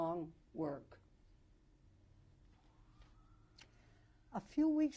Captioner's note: pauses for 3 seconds